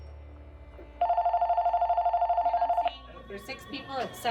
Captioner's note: western music; phone ringing; soft background chatter